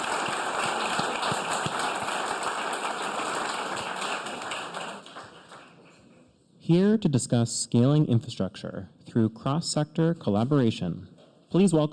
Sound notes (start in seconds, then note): 2.1 applause